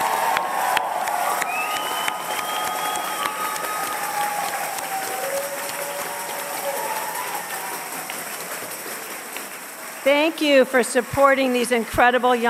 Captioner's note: cheers and applause